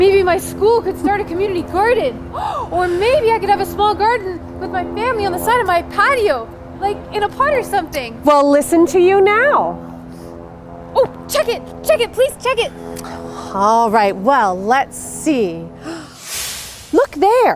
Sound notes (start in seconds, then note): 15.8 gasp